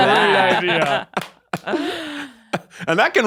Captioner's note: clapping